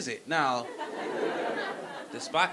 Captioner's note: audience laughing